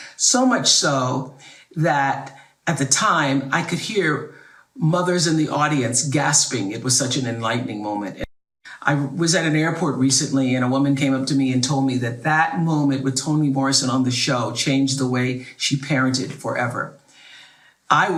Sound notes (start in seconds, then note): none